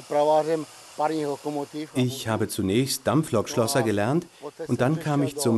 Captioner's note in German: tschechisch